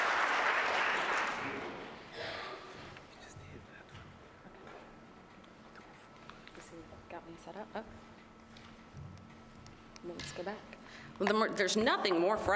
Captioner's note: applause